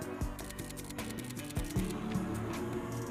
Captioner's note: camera shutter clicking; upbeat music